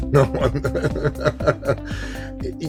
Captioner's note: laughs